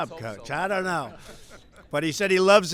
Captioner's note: laughter